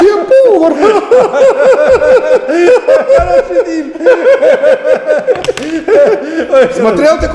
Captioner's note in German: ekelhaftes Lachen